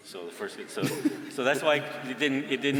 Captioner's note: laughter